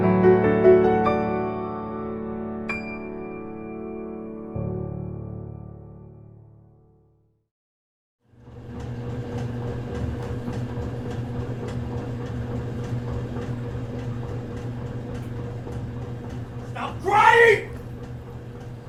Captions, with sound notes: (gentle music) (washing machine whirring) - Stop crying!